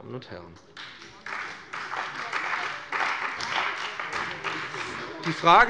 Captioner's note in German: Beifall bei dem BÜNDNIS 90/DIE GRÜNEN und der CDU